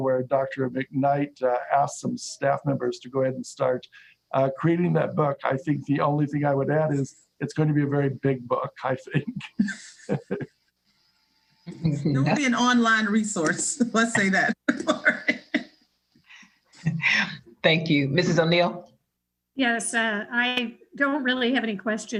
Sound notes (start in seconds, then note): 14.7 laughter